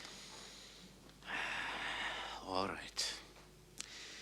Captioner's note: sighs